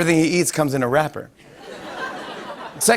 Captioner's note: laughter